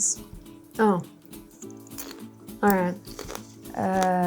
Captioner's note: crunches